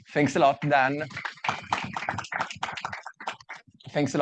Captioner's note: audience clapping